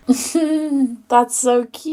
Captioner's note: laughs